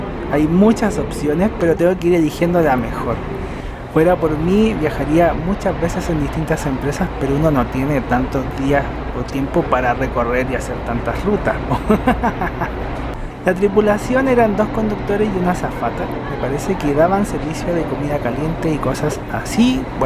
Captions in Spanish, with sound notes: hay muchas opciones pero tengo que elegir la mejor fuera por mí viajaría muchas veces en distintas empresas pero uno no tiene tantos días o tiempo para recorrer y hacer tantas rutas (risas) la tripulación eran 2 conductores y una azafata me parece que daban servicio de comida caliente y cosas así